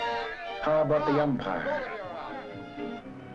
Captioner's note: voiceover